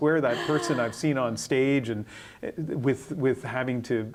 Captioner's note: laughter